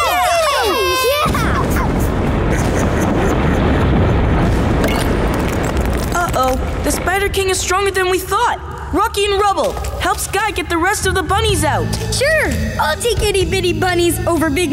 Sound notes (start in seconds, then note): 1.9 cheering